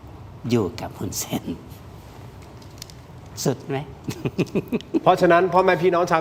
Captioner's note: laughs